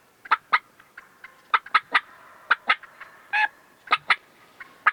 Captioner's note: hen clucking